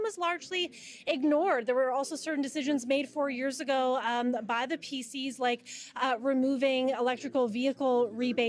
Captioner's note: none